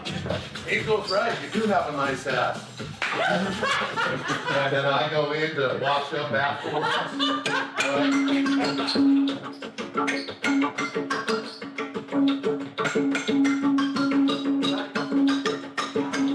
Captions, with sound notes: Angel's right. You do have a nice ass. [Dancers laughing] Can I go in to wash up afterwards? [laughs] [xylophone music]